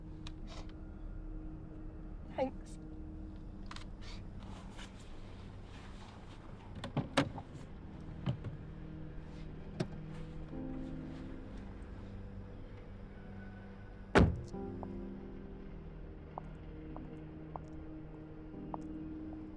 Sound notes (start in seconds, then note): 6.7 sound of door opening